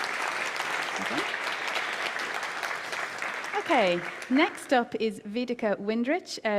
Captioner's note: applause